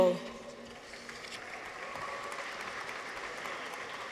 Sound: audience applauds

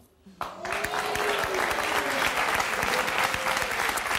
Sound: audience applauding

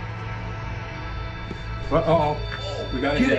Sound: device beeping

